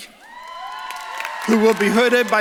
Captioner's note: audience claps and cheers